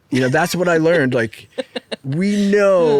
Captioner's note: laughing